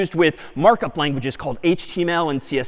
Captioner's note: none